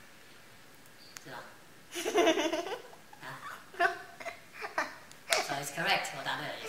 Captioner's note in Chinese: 笑聲